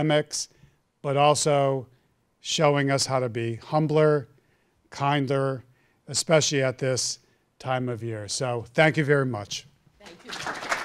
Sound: applause

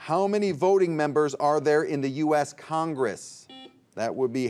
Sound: buzzer beeps

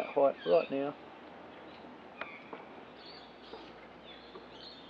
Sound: birds chirping

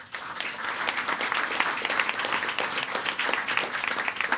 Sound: audience applauding

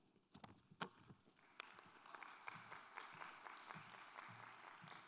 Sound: applause

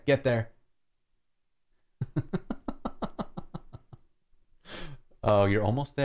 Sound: laughter

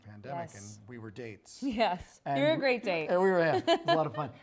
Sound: laughs

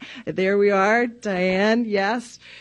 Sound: none

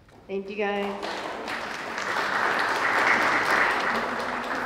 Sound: applause

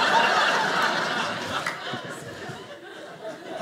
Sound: audience laughing

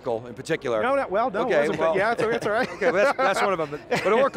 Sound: group chattering

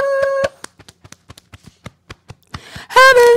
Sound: beating Chest

